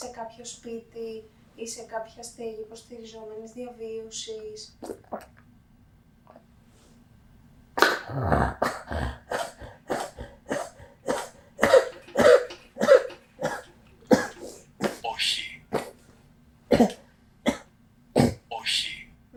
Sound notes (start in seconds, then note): 7.6 cough; 9.2 achmet – artificial male voice